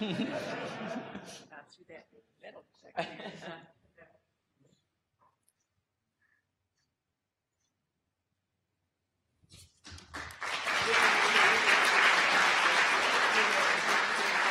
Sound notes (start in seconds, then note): 0.0 audience laughter; 3.4 laughs; 9.9 audience applause